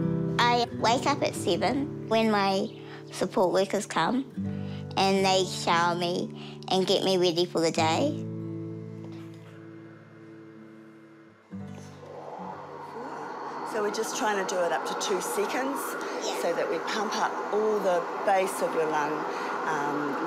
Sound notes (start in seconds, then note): 9.9 ventilator hums quietly